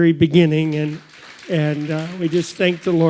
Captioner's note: audience applauds